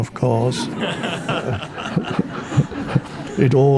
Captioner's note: audience laughing